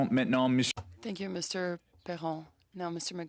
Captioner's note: speaking French